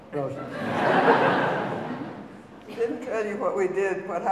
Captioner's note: audience laughing